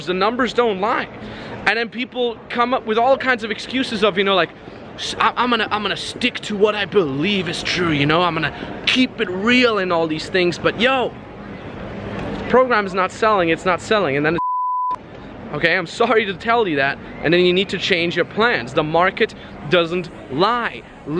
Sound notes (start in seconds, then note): 14.4 beep